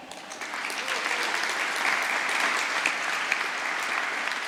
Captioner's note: applause